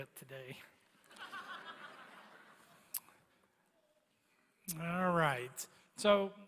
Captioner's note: laughter